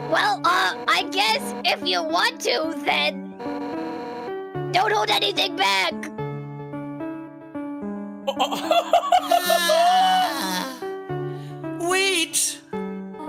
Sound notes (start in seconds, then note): 8.2 laughs